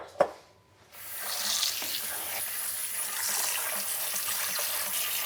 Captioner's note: water running